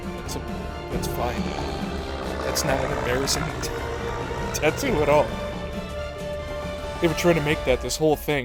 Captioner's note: wheeze